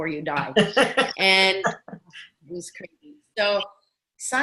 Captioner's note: laughing